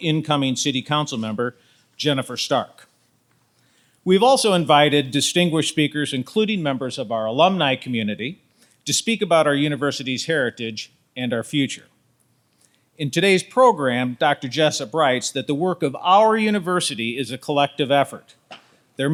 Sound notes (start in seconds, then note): none